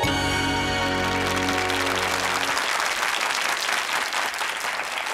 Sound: audience applause

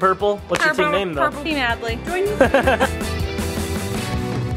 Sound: laughing; upbeat Music

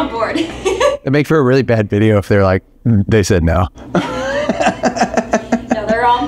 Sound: laughing

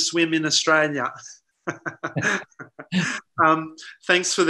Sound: laughs

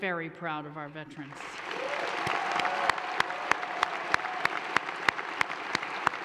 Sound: audience cheers and applauds

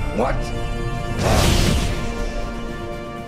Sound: heroic music; flash electricity

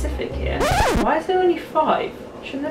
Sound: record scratching

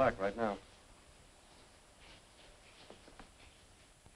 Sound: rain pattering

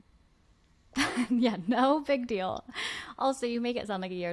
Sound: laughs

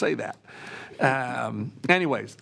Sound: trustees chuckling

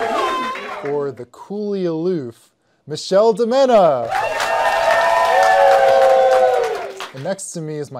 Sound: cheers; cheers

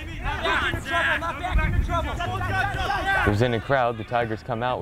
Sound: players talking and yelling

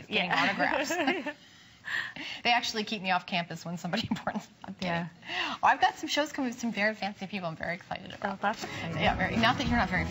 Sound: laughter

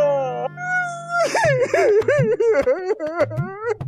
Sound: crying

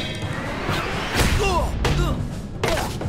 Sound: grunting

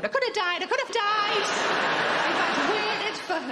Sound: audience laughing

